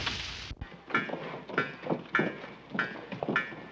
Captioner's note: clanging